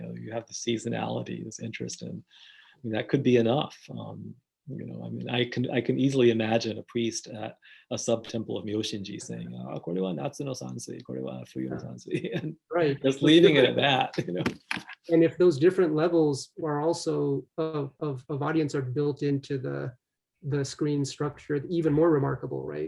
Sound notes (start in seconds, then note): 11.7 laughs